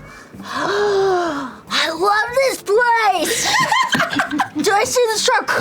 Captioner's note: gasps